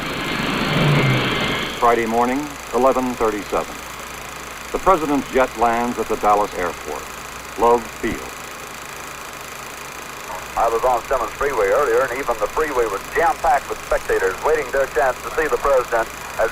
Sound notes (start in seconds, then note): 0.0 projector reel spinning; 0.0 jet engine whirring; 8.8 projector reel spinning